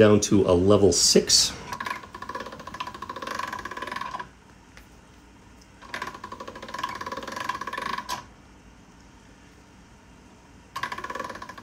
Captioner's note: cranking